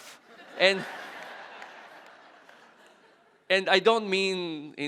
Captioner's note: audience laughing